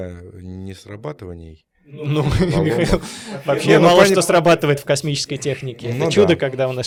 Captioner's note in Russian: смех